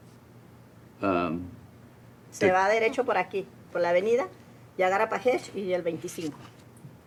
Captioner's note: speaks in Spanish; woman speaks in Spanish